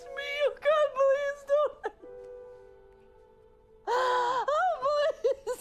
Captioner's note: crying